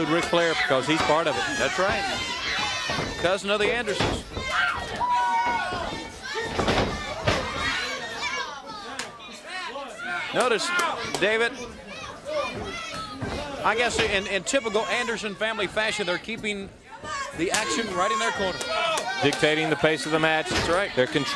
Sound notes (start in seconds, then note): 4.3 crowd cheering